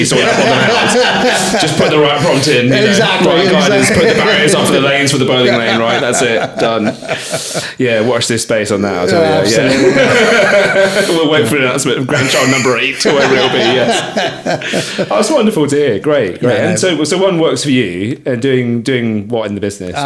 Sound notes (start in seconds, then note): 9.0 laughing; 15.2 laughing